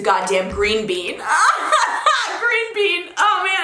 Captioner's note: laughing